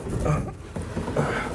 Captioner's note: gasping